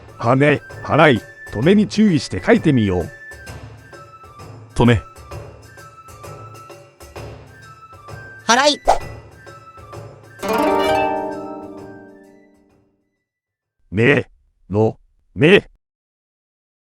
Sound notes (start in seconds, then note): 9.0 sweeping